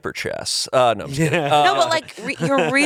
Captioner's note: laughs